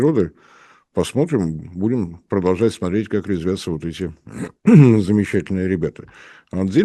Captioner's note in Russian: откашливается